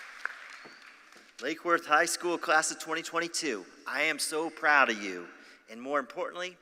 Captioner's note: applause